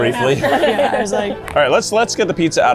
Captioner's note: laughter